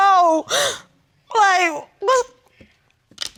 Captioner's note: crying